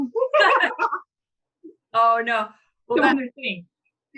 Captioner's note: women laugh